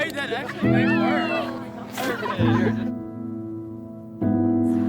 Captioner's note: people laughing